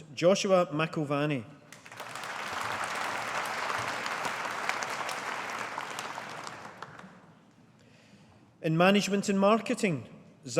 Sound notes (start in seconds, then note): 1.7 audience applauding